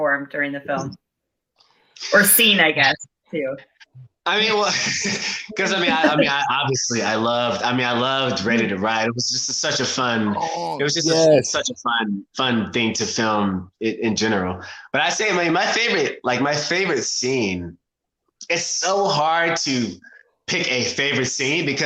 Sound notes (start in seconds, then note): 4.4 chuckles